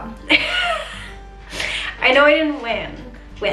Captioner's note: chuckles